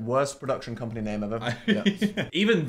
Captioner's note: Phil laughs